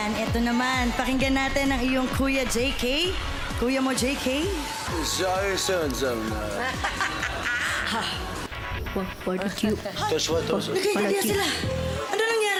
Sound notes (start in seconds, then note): 5.3 speaking gibberish; 6.6 laughter; 9.5 speaking gibberish